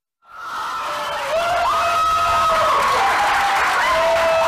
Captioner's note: people cheering